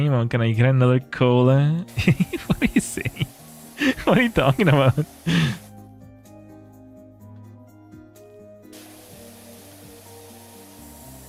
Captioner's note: laughter